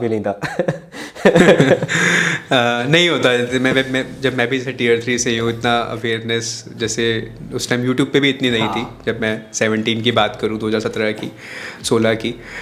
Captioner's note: laughs